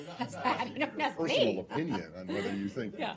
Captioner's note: laughter